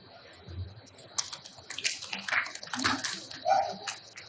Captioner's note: applauding